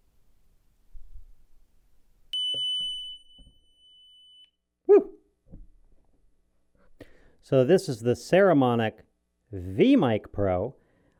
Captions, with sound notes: (tone generator beeping) Whoo. So, this is the Saramonic VMIC Pro.